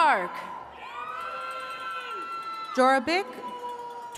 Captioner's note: attendees cheering